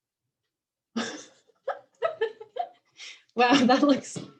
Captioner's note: laughing